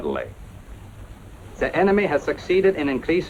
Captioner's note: German-accented voice